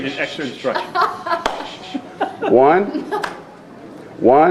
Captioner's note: laughing